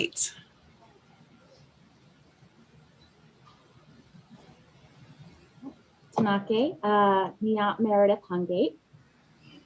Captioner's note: speaking in Native Language